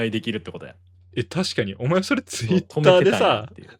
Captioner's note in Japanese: 笑い